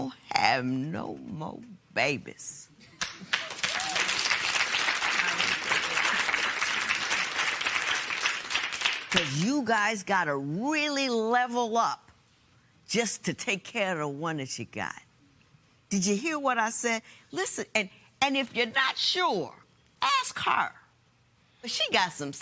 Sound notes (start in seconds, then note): 3.0 applause; 7.0 applause continues